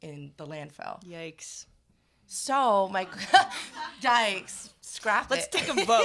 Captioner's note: laughs